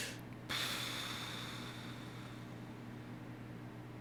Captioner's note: exhales deeply